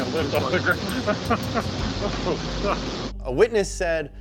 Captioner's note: chuckling